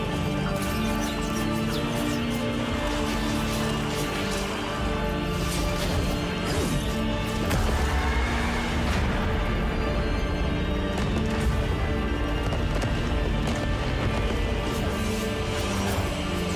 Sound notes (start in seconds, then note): 0.2 arrows slicing through air; 7.4 mystical explosion